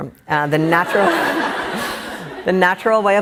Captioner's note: laughing